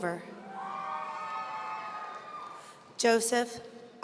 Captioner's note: audience cheering